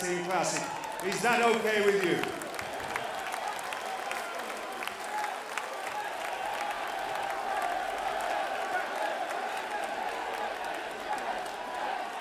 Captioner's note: crowd cheering